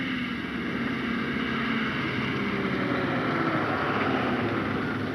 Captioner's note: engine puttering